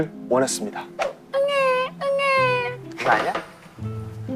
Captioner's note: crying